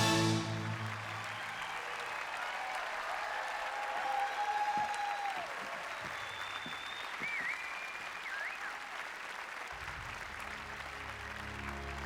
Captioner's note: applause